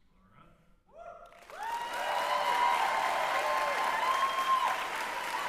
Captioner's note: applause